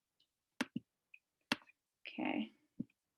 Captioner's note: keyboard clicking